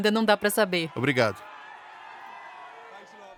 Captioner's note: crowd cheering